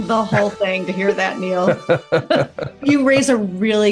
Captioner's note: laugh